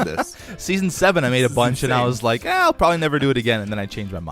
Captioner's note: laughs